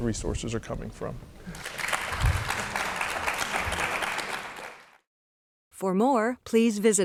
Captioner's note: applause